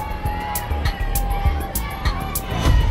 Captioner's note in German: Lautes Stimmengewirr